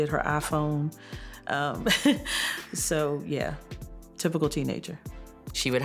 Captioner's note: laughs